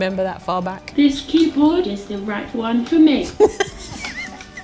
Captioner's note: laughing